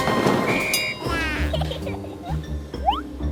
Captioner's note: laugh